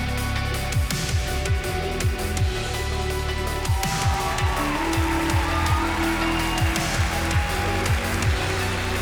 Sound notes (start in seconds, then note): 4.6 audience cheering